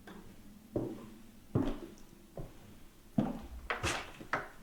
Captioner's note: footsteps tapping